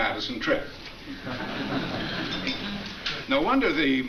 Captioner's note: audience laughs